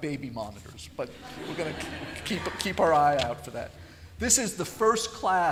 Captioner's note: laughter